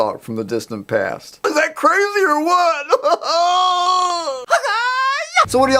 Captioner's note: laughs